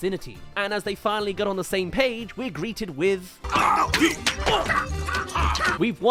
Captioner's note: slapping around